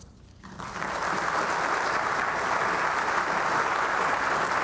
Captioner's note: audience applauding